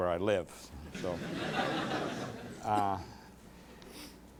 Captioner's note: laughter